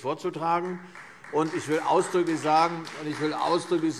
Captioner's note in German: Beifall Freie Demokraten